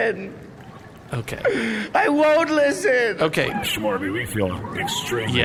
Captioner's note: tearfully